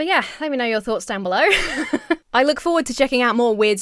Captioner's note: Emma laughs